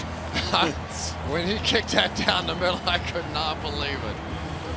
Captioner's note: chuckles